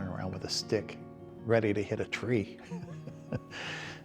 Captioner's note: chuckles